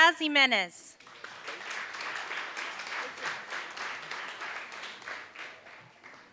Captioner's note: applause